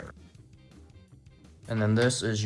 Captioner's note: paper card flips